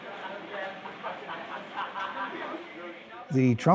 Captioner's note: group laughs